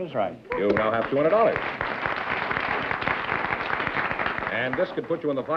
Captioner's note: applause